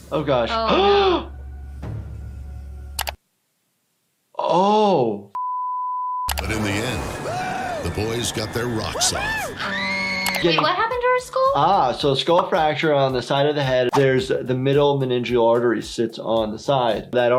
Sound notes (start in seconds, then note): 1.7 gasps; 9.1 woman screaming